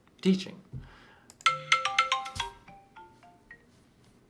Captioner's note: phone ringing